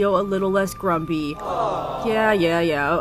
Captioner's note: awww